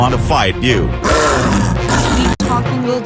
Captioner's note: snow leopard growling